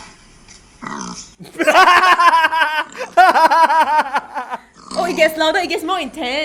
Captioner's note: intensified snorting and laughter